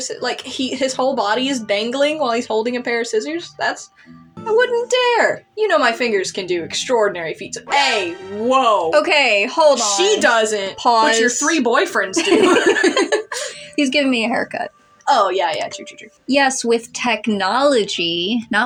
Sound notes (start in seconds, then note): 7.6 alert Sound; 12.1 both Laugh